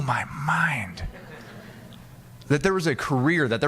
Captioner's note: audience laughing